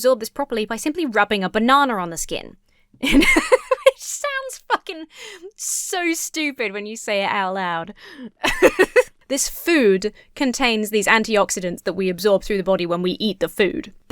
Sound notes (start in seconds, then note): 3.1 breaks into laughter; 8.4 laughs